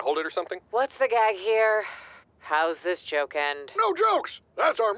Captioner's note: sighs